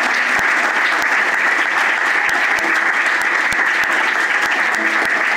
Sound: applause

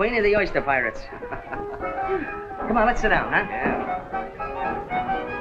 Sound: chuckles

